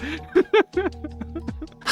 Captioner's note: laughing